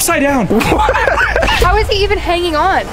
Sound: laughs

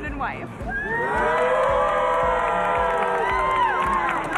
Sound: cheering

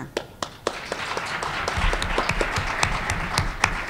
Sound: applause

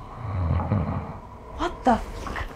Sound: loud snoring

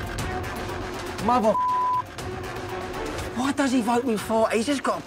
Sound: beep

